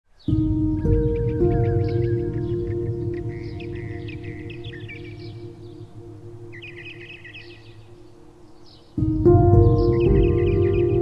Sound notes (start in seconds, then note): 0.1 birds chirping; 0.1 gentle music